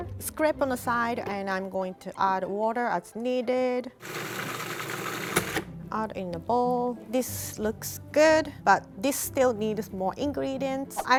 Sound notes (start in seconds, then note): 4.0 blender roars